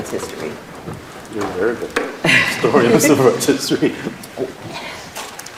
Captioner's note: laughter